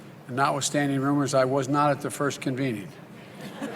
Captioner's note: laughter